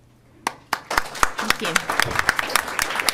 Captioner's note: audience applauds